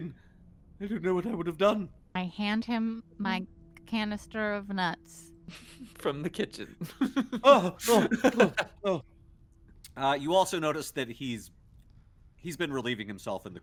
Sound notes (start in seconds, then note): 6.8 laughs; 6.8 Cornette laughs